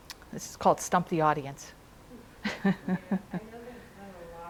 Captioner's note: chuckles